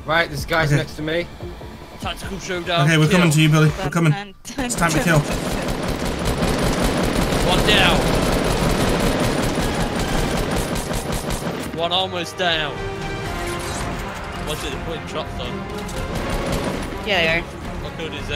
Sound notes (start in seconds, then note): 4.8 gunfire; 8.9 suspenseful music